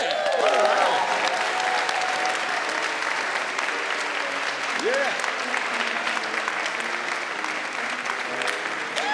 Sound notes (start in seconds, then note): 0.0 audience applauding